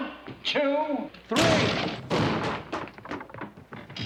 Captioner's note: bangs